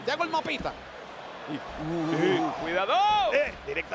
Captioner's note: applause